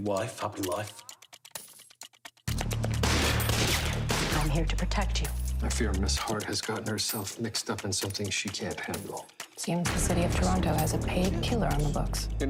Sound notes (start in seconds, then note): 2.9 gun shots